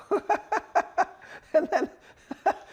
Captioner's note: laughing